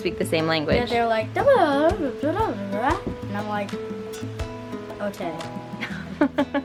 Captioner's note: mimics German; chuckles